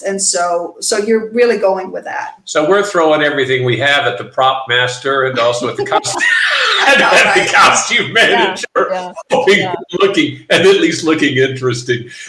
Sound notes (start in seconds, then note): 5.0 laughing; 5.3 everyone laughing